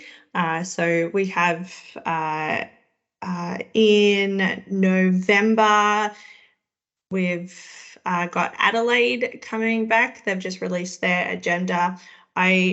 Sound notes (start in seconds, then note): none